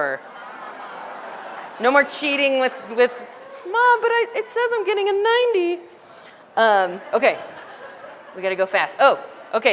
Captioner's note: laughter